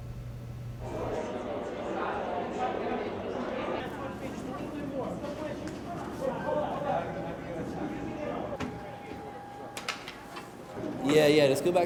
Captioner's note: background chatter